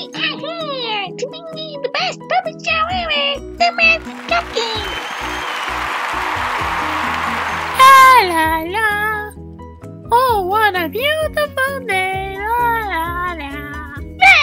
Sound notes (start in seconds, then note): 5.3 cheering and applause